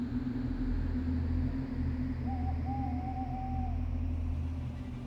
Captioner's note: suspenseful music fades in; owls hooting